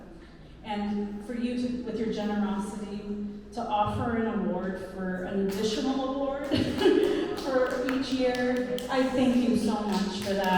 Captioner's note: applause